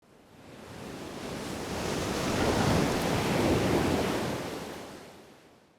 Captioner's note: waves crashing